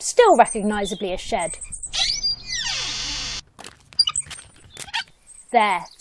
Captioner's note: shed door creaks open